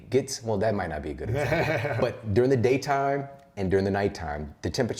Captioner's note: laughs